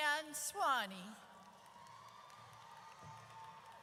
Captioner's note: audience cheers